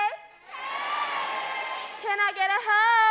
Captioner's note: crowd